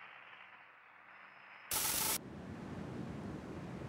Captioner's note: sizzling